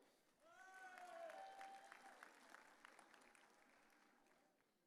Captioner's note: audience cheering